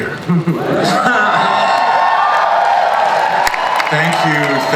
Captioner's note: audience cheers and applauds